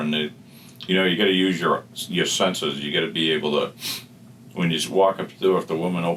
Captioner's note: sniff